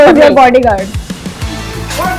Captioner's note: langhing